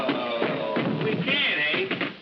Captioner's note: thumping